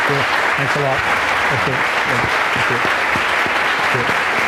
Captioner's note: audience applause